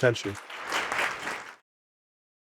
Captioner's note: audience clapping